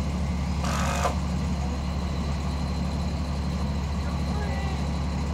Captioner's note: screw gun spinning